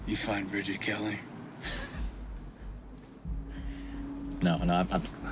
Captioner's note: chuckles